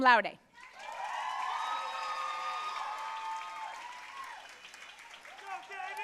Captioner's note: audience cheering and applauding